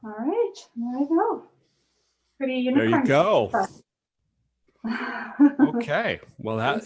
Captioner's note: laughs